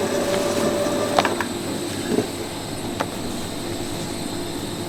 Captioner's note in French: Bruit Machine